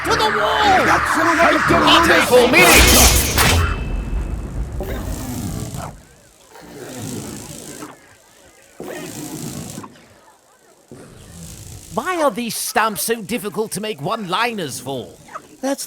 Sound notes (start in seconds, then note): 0.2 magic shouting; 4.0 contained buzzing